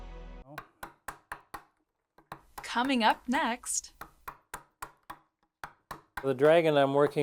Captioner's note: chisel tapping